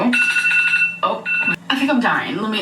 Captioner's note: phone rings